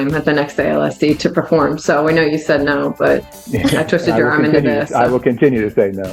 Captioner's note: laughing